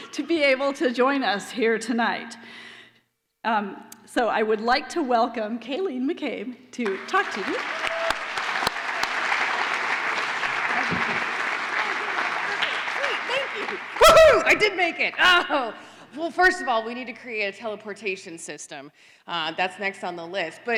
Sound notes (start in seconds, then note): 8.4 applause